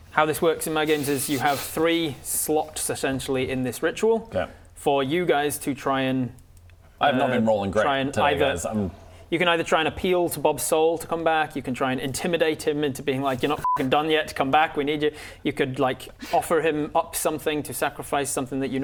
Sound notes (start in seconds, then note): none